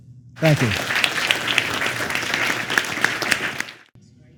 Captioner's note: applause